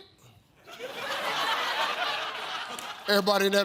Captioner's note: audience laughs